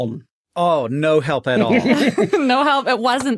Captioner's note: snickers